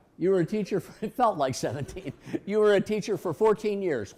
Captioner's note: laughs